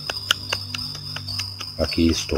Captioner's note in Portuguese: vibração